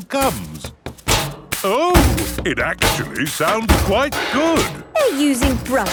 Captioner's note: rhythmic clanging